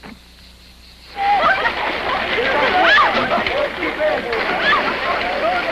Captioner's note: laughing